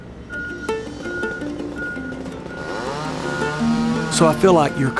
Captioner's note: buoyant music; chainsaw buzzes